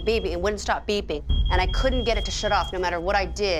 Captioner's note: beeping